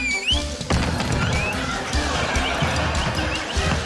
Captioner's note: laughter; wall thuds